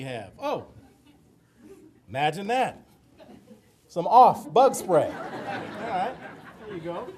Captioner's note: audience laughter